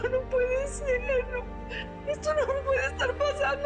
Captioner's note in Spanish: Llorando